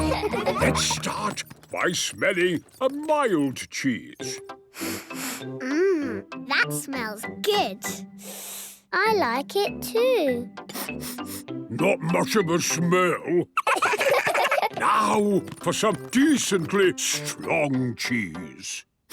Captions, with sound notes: Let's start by smelling a mild cheese. - (sniffs) Mmm... That smells good. - (sniffs) I like it too! - (sniffing) Not much of a smell. - Now for some decently strong cheese?